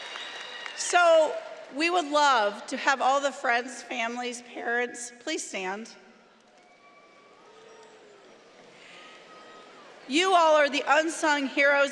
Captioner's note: cheering